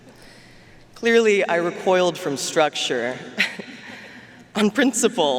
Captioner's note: chuckles